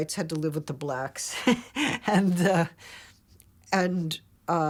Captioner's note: laughs